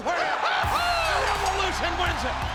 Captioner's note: laugh